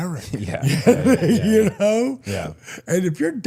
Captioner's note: laughs